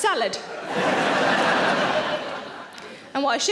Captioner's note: audience laughing